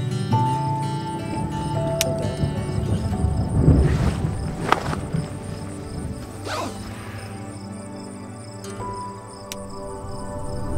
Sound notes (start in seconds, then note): 1.0 faint roll of thunder; 3.7 sounds of unrolling gear and zipping